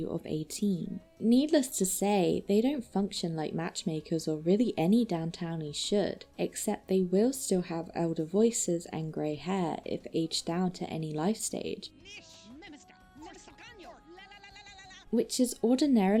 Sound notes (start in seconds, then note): 11.7 Adult Cheryl and Caryl arguing with elder voices